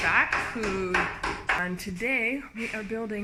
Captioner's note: loud hammering